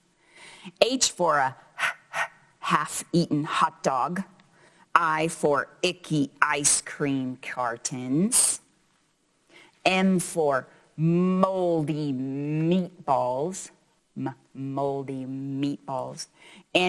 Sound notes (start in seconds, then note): 1.7 heavy panting